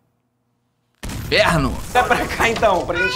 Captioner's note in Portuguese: som de explosão